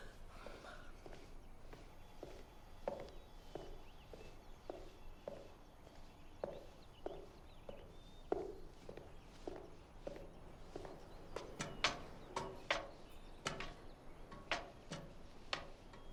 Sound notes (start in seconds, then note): none